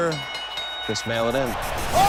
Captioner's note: bell ringing